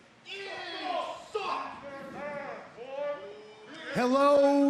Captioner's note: crowd chatter